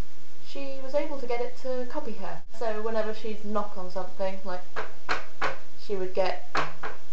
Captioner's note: knocks